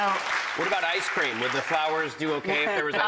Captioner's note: audience applauding